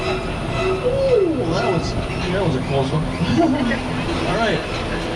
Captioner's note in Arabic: يضحك